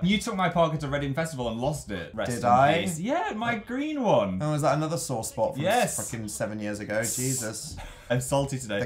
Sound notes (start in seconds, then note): 6.9 hisss